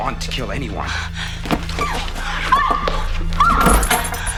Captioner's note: gasping; clattering